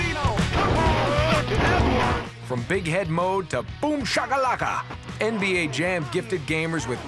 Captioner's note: shouts